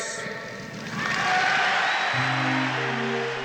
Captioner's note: cheering and applause